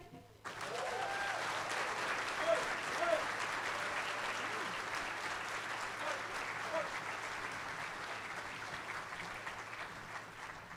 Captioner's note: applause